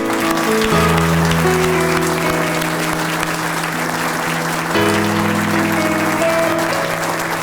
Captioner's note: 11 seconds of clapping